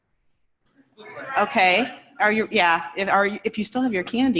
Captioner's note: laughter